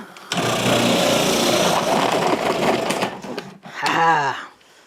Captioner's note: food processor whirring